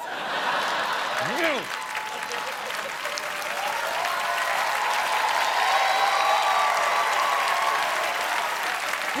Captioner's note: cheers and applause